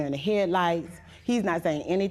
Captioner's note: none